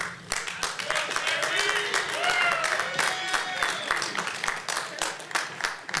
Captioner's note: applause